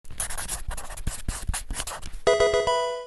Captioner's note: marker scratching; electronic video game music